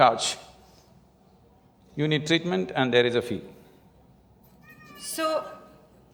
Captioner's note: laughs